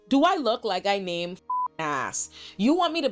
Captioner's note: beep